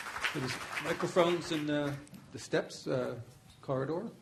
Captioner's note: applause